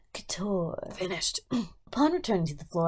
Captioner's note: coughs